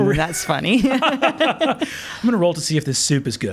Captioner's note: laughing